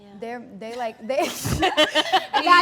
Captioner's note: all laugh